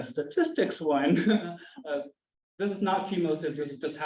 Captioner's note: chuckles